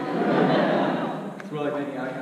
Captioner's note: audience laughs